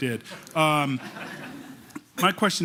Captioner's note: laughter